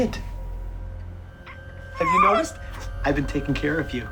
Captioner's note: muffled scream